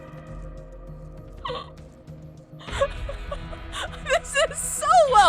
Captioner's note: chuckling